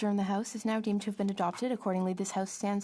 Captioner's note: speaking French